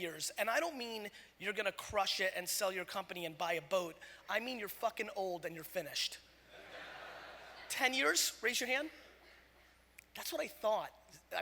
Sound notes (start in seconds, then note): 6.5 audience laughter